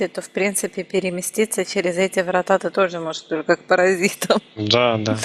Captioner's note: laughing